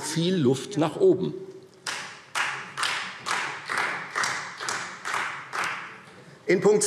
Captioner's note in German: Beifall Freie Demokraten